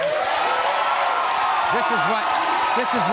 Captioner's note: audience cheering